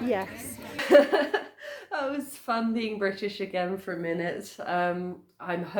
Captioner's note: laughing